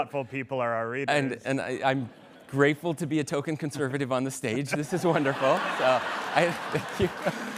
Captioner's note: laughter